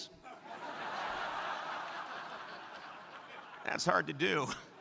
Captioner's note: crowd laughing